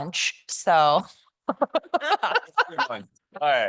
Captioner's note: laughter